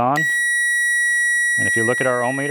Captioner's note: alarm beeping